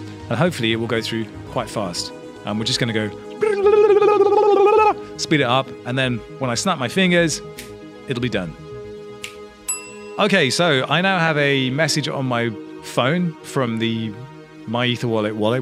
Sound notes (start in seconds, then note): 3.3 makes babbling sound; 9.7 snaps fingers, notification dings